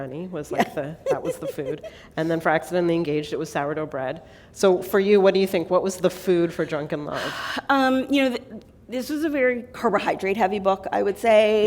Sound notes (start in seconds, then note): 0.5 laughter